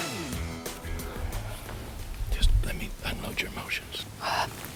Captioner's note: whispering